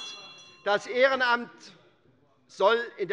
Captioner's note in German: Anhaltende Zurufe - Glockenzeichen des Präsidenten